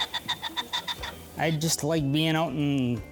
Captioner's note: birds quacking